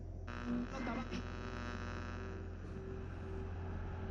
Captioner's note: radio buzzing